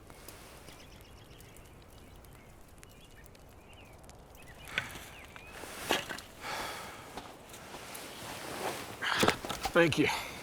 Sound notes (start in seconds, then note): 0.1 birds chirping; 5.8 wood thudding